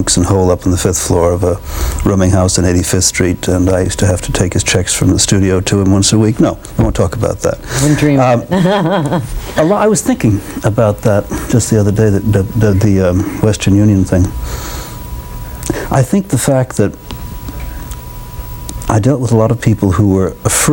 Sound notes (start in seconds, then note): 7.8 laughs